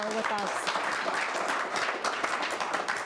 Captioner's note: applause